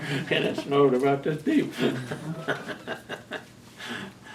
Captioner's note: laughs